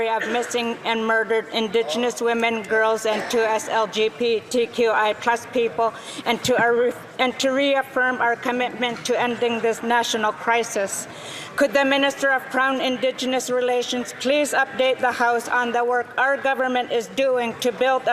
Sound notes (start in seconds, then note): 0.5 speaking Alternate Language